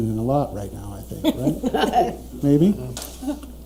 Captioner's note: laughing